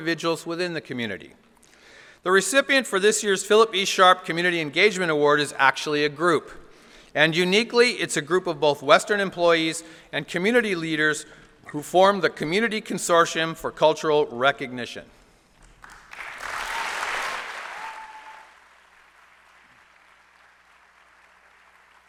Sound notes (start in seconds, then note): 15.6 applause